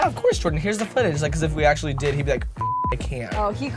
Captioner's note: beep